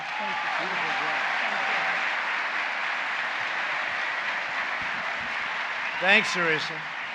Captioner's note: applause